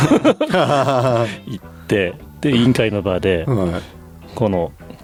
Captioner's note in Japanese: 笑い